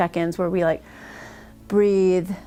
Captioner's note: exhale deeply